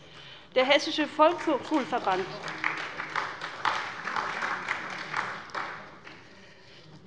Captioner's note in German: Beifall bei der SPD